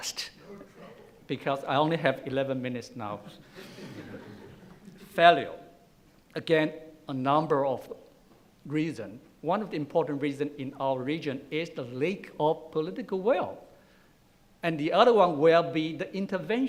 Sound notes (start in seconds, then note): 3.5 laughing